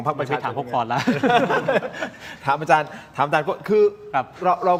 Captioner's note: laughter